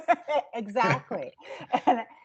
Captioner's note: everyone laughing; laughing